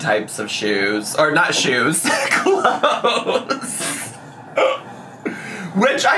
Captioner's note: laughs